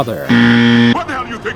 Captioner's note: buzzer